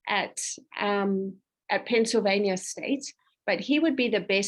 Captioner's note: none